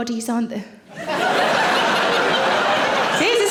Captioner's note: audience laughing